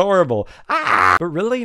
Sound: happy gremlin noises

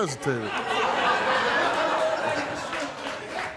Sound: laughing

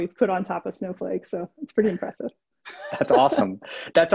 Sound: laughs

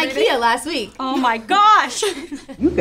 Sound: laughs

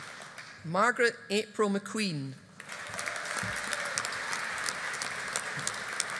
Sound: audience applauding

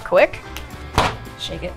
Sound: smacks fabric

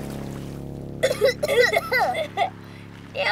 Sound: coughing

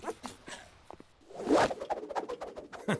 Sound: twirling sounds; smug laugh

